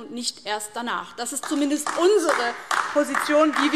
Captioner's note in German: Beifall DIE LINKE